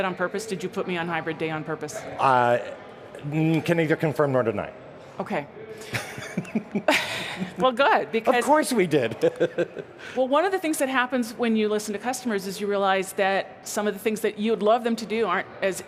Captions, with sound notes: ME ON HYBRID TODAY ON PURPOSE? >> OKAY [CHUCKLES] >> WELL, GOOD >> THINGS THAT HAPPENS WHEN YOU LISTEN OF THE THINGS THAT YOU LOVE THEM